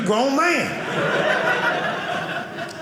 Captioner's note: audience laughing